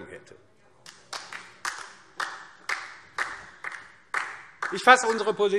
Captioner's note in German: Beifall DIE LINKE